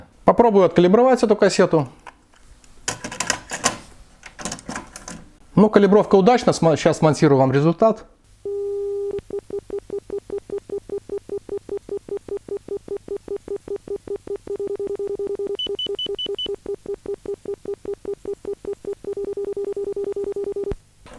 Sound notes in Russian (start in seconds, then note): 8.4 Звучат калибровочные сигналы встроенного генератора